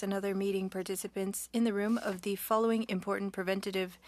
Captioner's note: speaking French